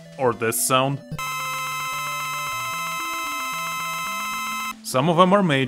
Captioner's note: ear-bleeding sound of boss health gauge filling